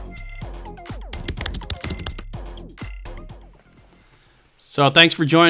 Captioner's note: upbeat music; keyboard clacking